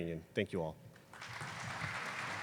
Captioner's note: applause